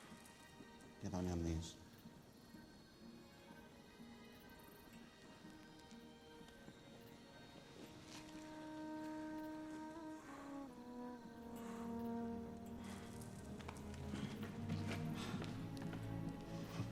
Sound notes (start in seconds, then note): 12.2 panting